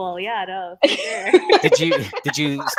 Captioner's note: women laughing